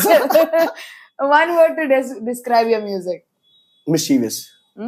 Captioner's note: laughs